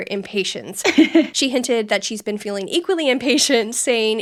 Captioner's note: laughing